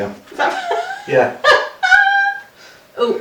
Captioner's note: laughing